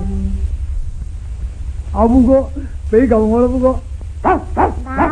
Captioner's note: the wolf dog is barking at Mr. Chow